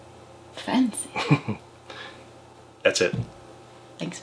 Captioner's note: laughs